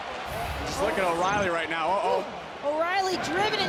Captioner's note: audience cheering